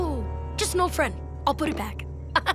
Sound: chuckles

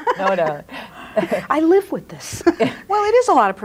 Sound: laughs

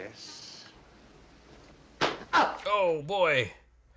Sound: umbrella smacking forehead

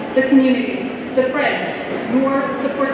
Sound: none

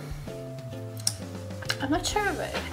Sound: kiss

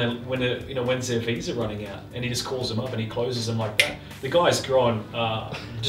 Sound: finger snap

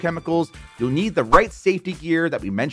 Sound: graphics swishing

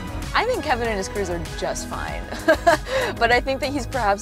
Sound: laughs

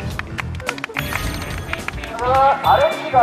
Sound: clapping

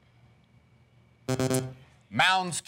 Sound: buzzer

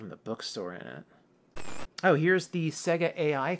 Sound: static

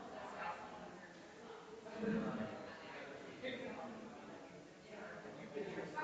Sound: people chattering distantly continues

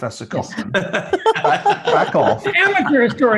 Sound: laugh

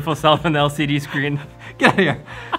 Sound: laughs

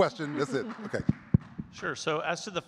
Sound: audience clapping

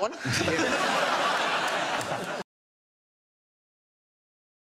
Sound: audience laughs

